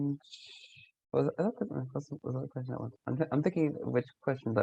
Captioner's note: voice muffling